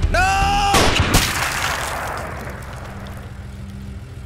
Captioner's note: gun fires; flesh spurting; engine humming